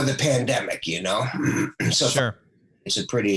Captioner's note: clears throat